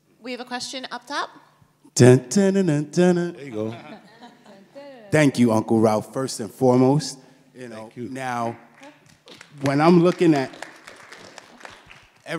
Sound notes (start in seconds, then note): 3.4 panelists laugh; 8.2 audience applauds